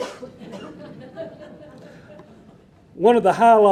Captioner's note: audience laughing